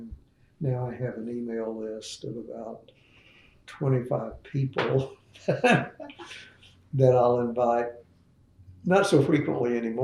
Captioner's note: laughs